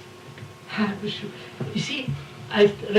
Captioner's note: laughter